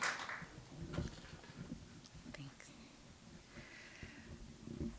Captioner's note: applause; microphone moves